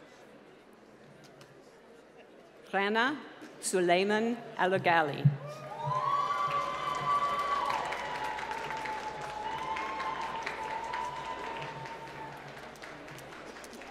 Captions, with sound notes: Clana Sulamen Alagali. (applause)